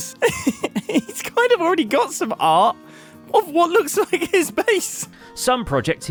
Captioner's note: laughs